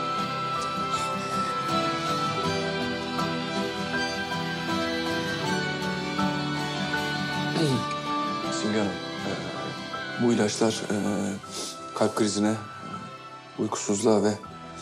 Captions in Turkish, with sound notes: (Duygusal müzik) (Boğazını temizledi) Simge Hanım... ...bu ilaçlar kalp krizine, uykusuzluğa ve...